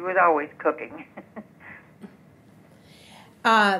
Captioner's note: laughs